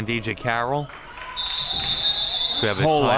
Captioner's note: whistle chirping